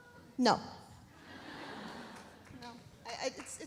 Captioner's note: audience laughs